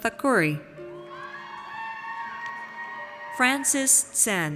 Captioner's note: audience cheers